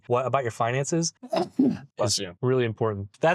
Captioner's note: achoo!